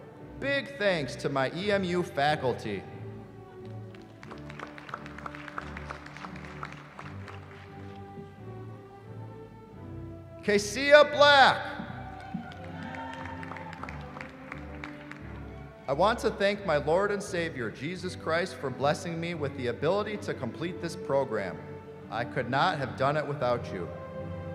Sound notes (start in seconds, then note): 3.6 applause; 11.8 cheering